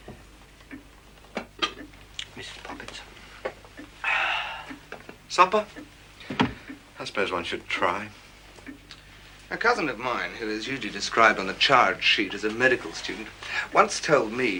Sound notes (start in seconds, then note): 4.0 exhaling